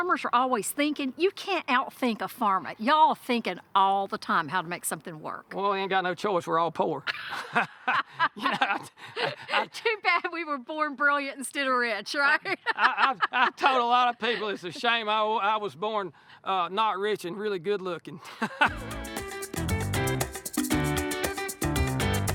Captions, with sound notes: Farmers are always thinking. You can't out-think a farmer. Y'all thinking all the time how to make something work. - Well, we ain't got no choice. We're all poor. [both laughing] - Too bad we were born brilliant instead of rich, right? [laughing] - I told a lot of people it's a shame I was born not rich, and really good looking. [laughing] [upbeat music]